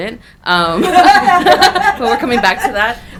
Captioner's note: audience laughing